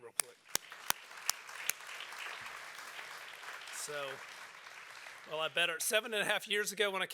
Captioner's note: applause